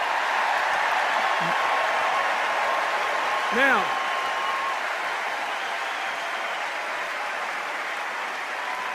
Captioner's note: cheers and applause